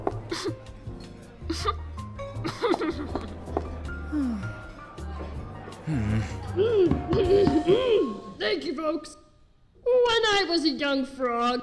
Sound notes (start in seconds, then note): 2.4 scoffs and laughs; 5.8 clears throat